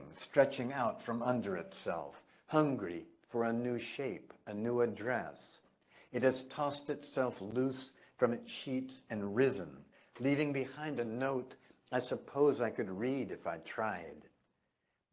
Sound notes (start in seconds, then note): none